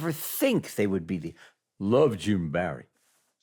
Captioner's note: heavy voice